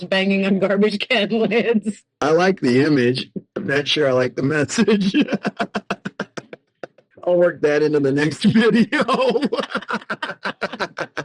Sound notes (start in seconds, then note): 6.5 laughing; 10.2 laughing